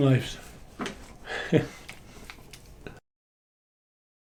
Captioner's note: chuckles